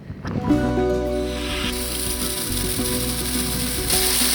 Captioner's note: turning water valve on